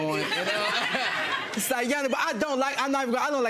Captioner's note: audience laughing